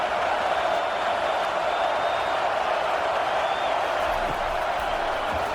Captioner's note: crowd Noises